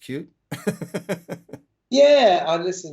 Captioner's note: laughter